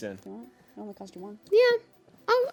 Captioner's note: faintly speaking